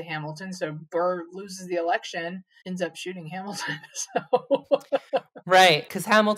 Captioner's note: laughs